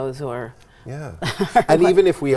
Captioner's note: laughs